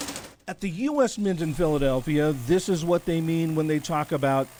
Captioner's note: voice-over